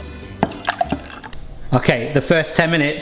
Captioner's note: taps "shave and a haircut" with whisk; oven timer beeping